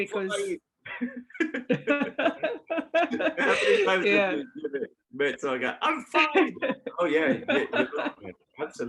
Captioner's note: laughter